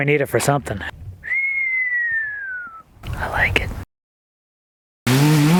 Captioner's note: whistles